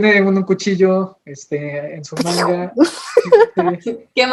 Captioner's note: knife sounds